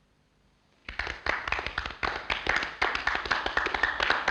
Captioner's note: scattered applause